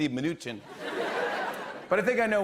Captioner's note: laughter